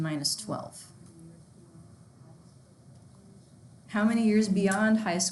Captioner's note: student speaking faintly